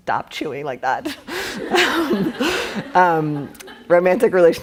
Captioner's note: laughing